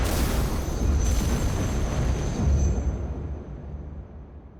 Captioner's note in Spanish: Explosión